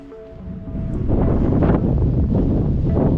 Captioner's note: wind blowing